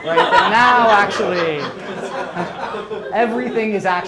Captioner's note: crowd laughs